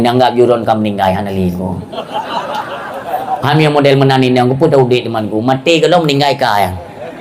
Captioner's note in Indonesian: tertawa